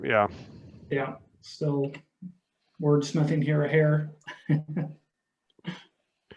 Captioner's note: laughing